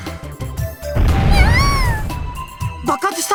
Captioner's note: shriek